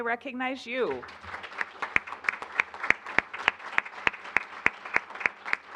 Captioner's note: applause